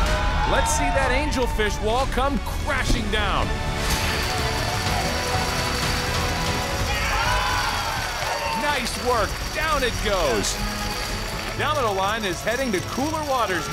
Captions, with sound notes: Let's see that angelfish will all come crashing down. [cheering] Nice work. Down it goes. Domino line is heading to cooler waters now.